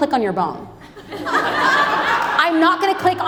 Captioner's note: audience laughs